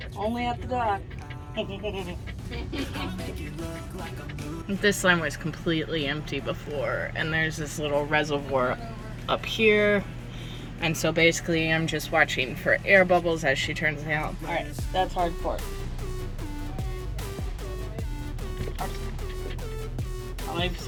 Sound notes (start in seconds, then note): 2.5 laughs above; 4.8 laughs below